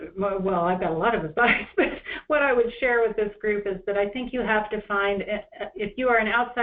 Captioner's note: chuckle